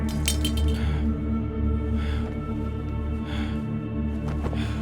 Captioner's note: blade clinking